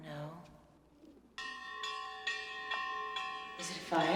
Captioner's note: bell clanging